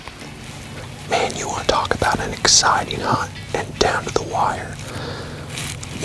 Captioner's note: whispering